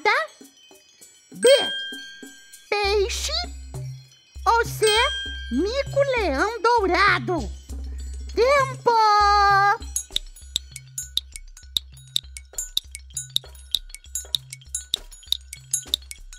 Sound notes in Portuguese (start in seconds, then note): 9.1 tic tac